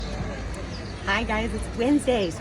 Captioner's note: background market buzz